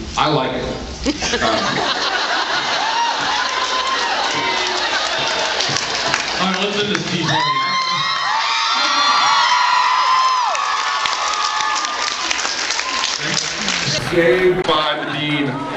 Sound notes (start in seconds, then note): 1.1 laughs; 8.7 cheers and screams